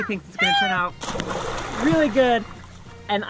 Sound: splashing

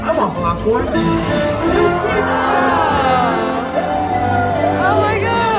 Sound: upbeat music; crowd whooping

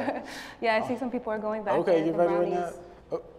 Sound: laughter

